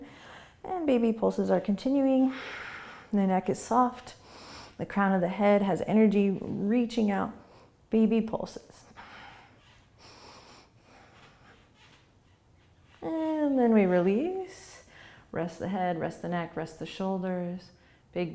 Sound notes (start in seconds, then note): 9.8 quick breaths